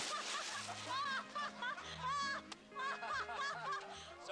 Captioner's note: laughter